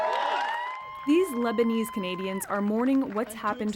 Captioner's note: cheers and Applause